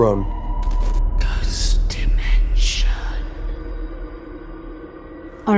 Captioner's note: ghostly Voice